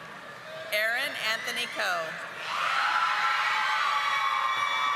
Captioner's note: audience applauding